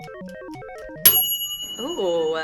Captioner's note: appliance pings; timer rings